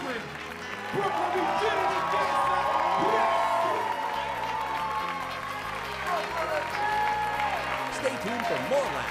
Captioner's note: applause